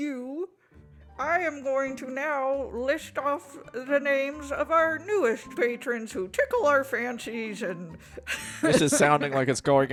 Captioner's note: laughs